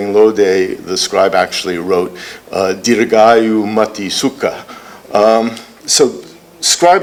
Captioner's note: non-english speech